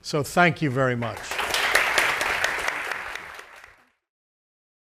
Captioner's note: audience applauding